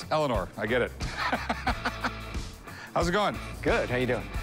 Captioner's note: laughs